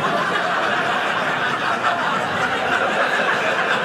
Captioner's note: audience laughing